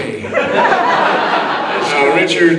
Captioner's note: audience laughing